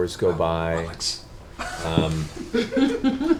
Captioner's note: whispers